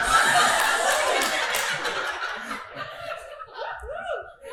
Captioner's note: audience laughing